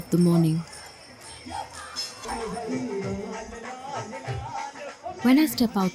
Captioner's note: bell jingles; traditional hyms